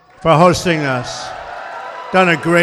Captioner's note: applause